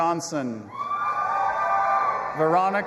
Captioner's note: audience applauding and cheering